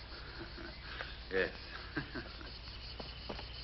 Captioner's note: laughs